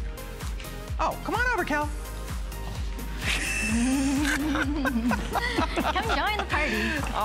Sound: laughter

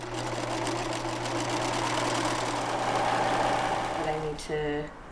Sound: sewing machine whirring

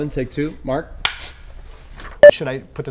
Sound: clap

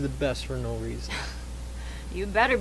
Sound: laughs

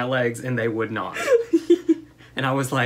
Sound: laughter

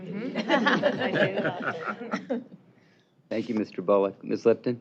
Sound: laughing

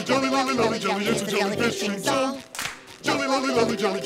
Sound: clap

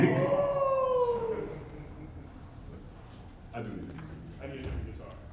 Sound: men gasping

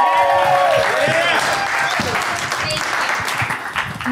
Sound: applause

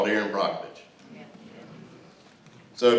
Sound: crowd murmurs

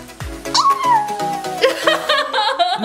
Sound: howls; laughing; music fades out

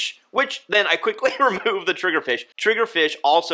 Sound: chuckles

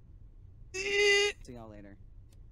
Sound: whines

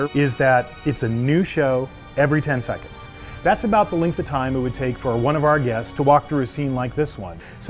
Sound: none

